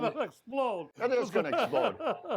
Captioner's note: laughing